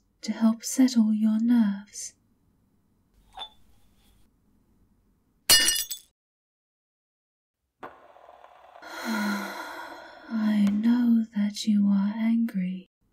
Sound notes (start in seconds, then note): 8.8 the maid sighs deeply, sounding more annoyed than upset